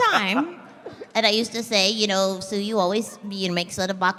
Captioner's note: belly-laughing; Froppy voice